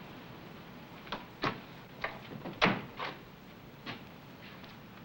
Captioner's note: door closed